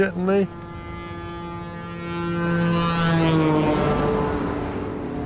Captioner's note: truck horn blowing